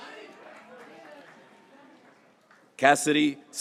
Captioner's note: graduates cheering